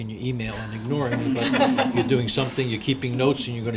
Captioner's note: group laughs